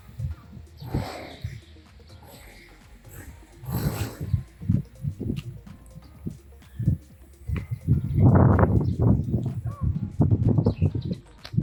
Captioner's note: wind blowing